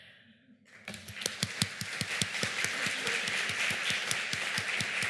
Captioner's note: applause